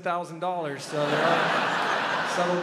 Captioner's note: crowd laughs